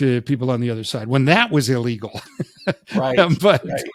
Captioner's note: chuckles